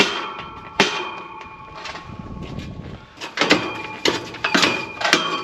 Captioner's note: hammer banging